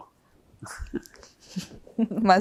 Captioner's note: laughing